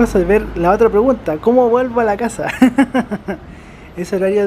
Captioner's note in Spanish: risas